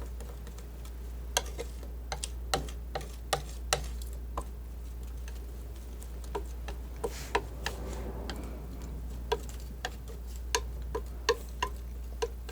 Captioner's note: tapping